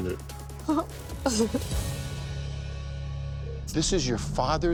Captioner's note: sobbing